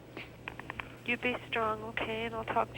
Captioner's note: on phone